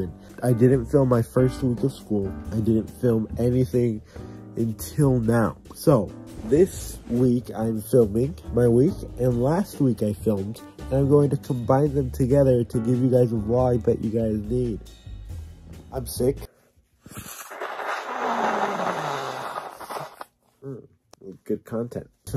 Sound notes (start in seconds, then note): 17.0 me blowing my nose as loud as possible lol